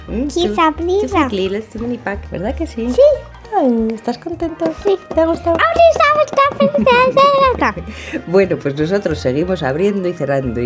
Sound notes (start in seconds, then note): 5.0 tap tap; 6.1 tap tap tap; 8.7 laugh